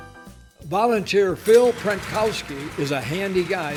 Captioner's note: big band music; voiceover